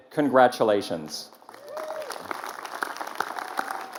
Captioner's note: applause